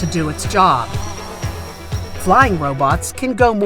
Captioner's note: blades buzzing